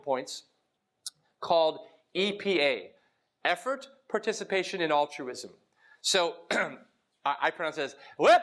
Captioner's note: cough